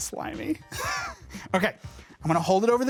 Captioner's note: laughs